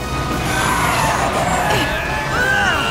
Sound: clucking; grunting

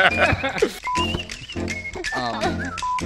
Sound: players laughing; beeping

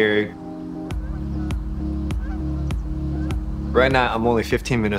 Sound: birds chirping

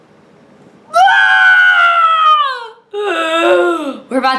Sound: screams

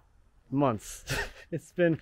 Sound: laughing

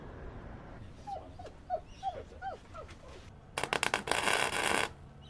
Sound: dog whining; welder buzzing

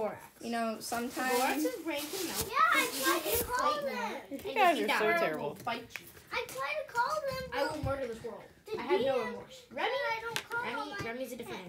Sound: multiple voices

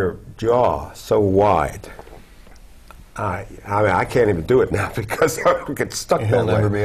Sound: laugh

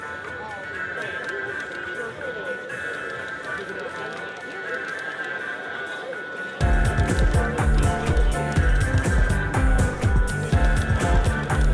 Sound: sounds of buttons and games

